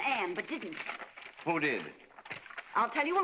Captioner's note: paper rustling